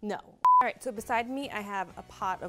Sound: beeps

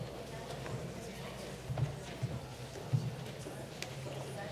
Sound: audience murmuring

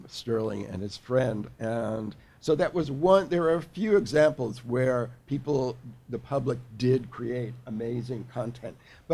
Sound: none

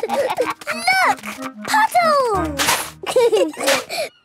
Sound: giggling; laughter

